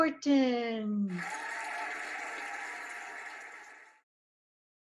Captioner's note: cheering and applauding